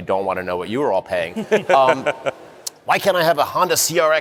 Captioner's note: laughter